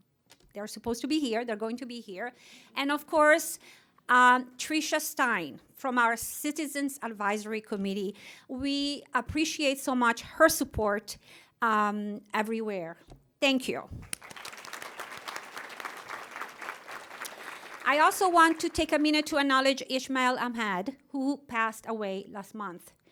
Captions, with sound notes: They're supposed to be here, they're going to be here. And of course Trisha Stein from our Citizens Advisory Committee. We appreciate so much her support everywhere. Thank you. [ Applause ] I also want to take a minute to acknowledge Ismael Ahmed, who passed away last month.